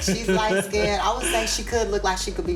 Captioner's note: laughs